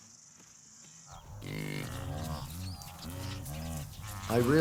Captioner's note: grunting